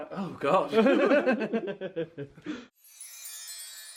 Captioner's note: chuckles; magical music